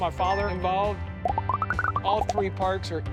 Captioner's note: graphics popping